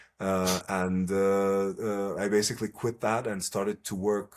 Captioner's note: laughs